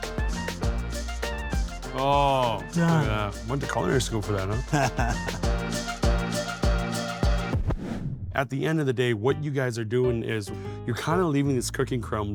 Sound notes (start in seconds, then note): 0.0 tropical upbeat music; 4.5 laughs; 5.5 tropical upbeat music; 9.2 soft jazzy music